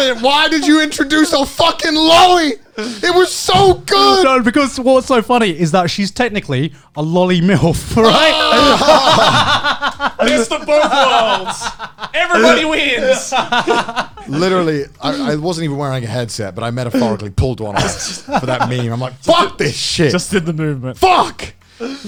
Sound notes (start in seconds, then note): 8.0 all laughing